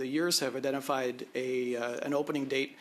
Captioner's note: speaking French